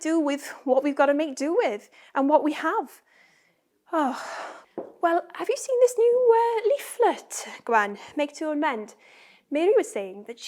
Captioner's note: sighs